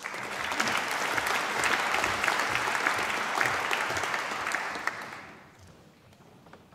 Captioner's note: applause